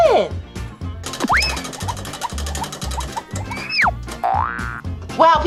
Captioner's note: spinning, clacking; spring boings